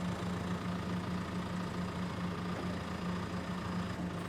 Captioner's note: engine running calmly